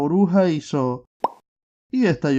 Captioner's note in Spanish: Sonido de burbuja al explotar